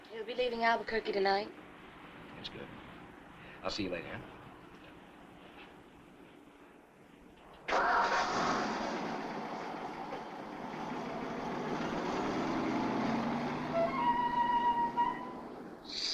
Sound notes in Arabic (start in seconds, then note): 7.6 هدير محرك السيارة; 14.1 موسيقى مشوقة